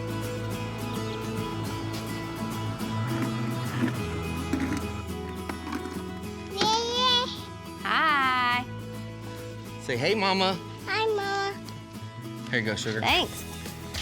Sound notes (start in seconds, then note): 6.5 babbles